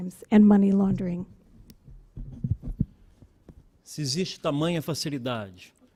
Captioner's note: speaking Portugese